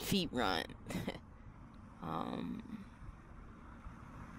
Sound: chuckles

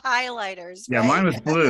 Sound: laughs

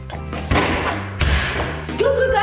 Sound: basketball bouncing

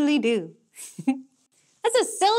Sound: chuckles

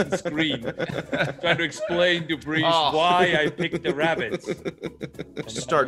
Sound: laugh

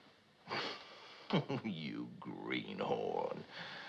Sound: chuckles

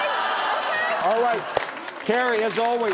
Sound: audience clapping

